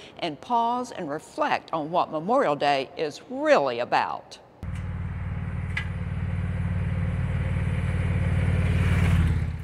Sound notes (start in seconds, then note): 4.6 motorcycle engine roaring